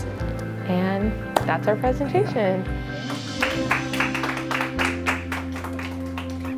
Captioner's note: applause